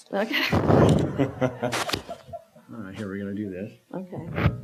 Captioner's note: laughter